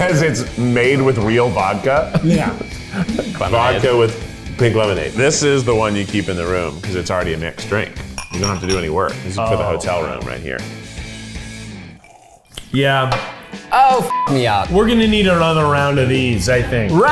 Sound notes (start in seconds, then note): 14.1 beeps